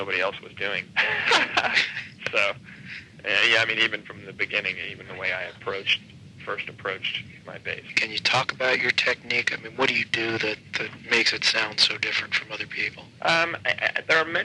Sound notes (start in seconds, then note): 0.9 laughing